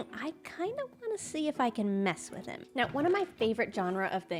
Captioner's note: none